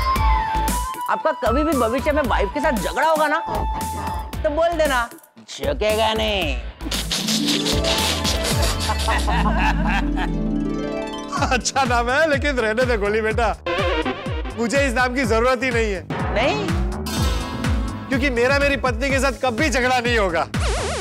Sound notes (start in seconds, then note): 7.1 laughing